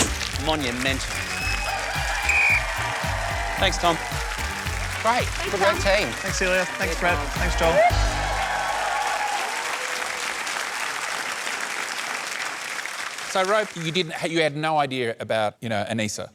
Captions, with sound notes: Monumental! (BLOWS WHISTLE) Thanks, Tom. Great. Good work, team. Thanks, Tom. Thanks, Celia. Thanks, Brett. Thanks, Joel. (CHEERING AND APPLAUSE) So, Rove, you didn't... you had no idea about, you know, Anisa.